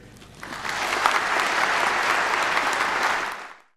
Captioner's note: audience clapping